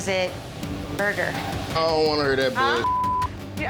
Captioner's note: beep